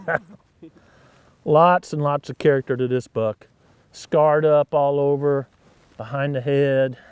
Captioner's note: chuckling